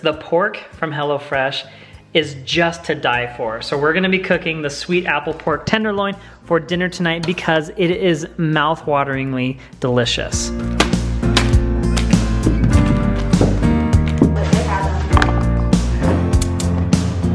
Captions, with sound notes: The pork from HelloFresh is just to die for. So, we're gonna be cooking the sweet apple pork tenderloin for dinner tonight because it is mouth wateringly delicious. (ingredients flop) (ingredients rumble) (relaxing music)